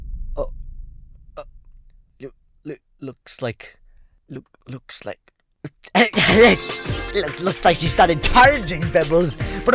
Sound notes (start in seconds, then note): 5.6 laughs crazily